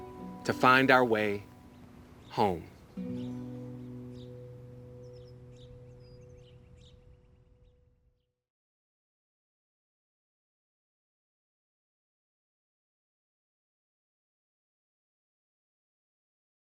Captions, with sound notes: To find our way home. (light music) (birds chirping)